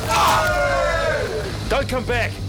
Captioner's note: man groaning; men cheering